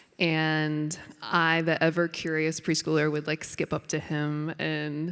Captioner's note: none